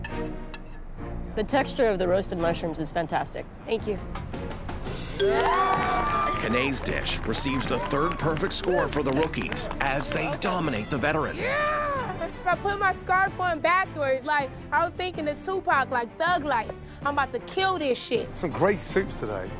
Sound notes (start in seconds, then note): 5.2 bell dings; 5.2 cheering